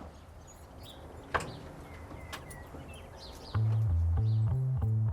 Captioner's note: keys jingling; birds chirping; soothing jazz music